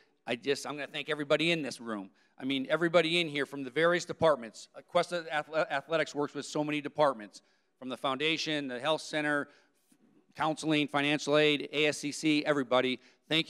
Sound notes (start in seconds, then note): none